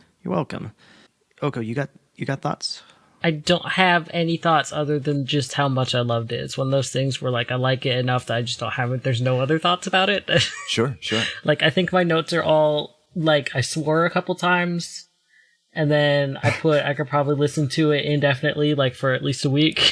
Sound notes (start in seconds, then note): 10.0 laughs